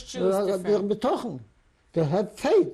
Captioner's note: non-english